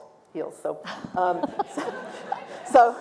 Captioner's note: laughter